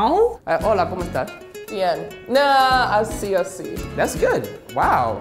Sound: speaks in Spanish

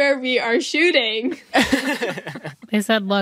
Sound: all laughing

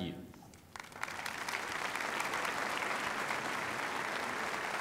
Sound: applause

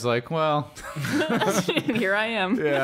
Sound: laughter

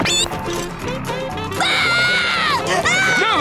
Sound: screaming

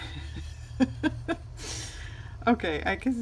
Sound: laughs

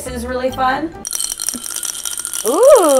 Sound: bottle rattles

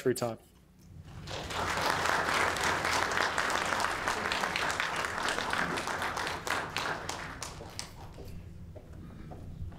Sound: applause

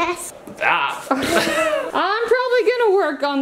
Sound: laughing

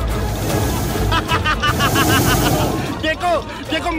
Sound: laughing

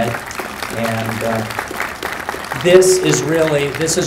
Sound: applause

